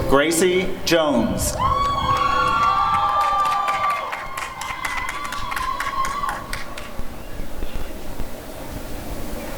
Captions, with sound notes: Gracie Jones [applause and cheering]